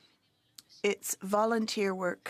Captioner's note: speaking French